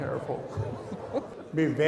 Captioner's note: laughing